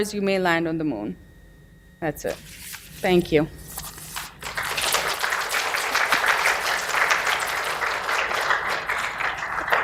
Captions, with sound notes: you may land on the moon. That's it. Thank you. (clapping)